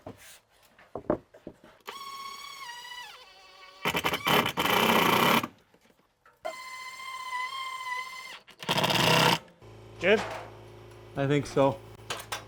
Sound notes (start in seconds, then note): 1.8 drill clicking; 1.8 drill whirring